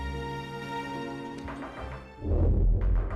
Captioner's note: rhythmic tapping; whooshing